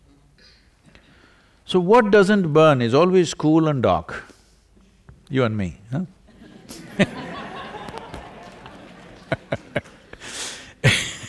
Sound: laughter

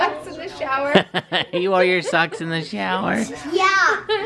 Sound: laughing

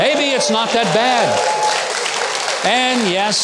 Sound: audience applauding

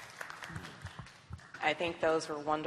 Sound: applause

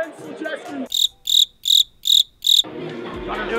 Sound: crickets chirping

